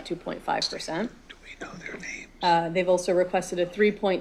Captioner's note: whispering